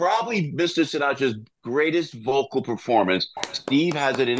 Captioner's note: clapping